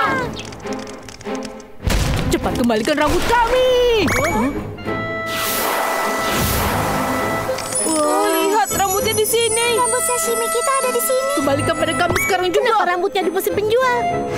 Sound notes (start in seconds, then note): 0.1 suspenseful orchestral music; 1.8 door slams